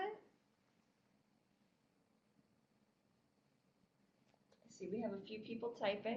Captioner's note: no sound - waiting for questions